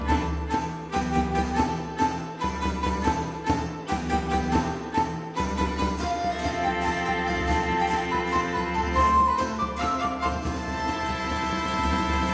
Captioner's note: applause